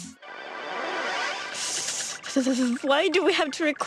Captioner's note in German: schüttelt und plaudert über ihre Zähne